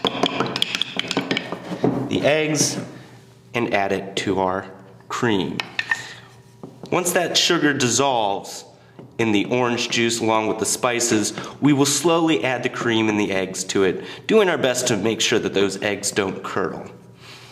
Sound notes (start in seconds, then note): 0.0 banging sound made by the mixing ingredients in bowl; 0.0 sound of dishes being moved on table surface; 5.8 sound of mixing continues